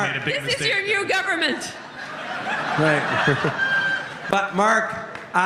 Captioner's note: laughter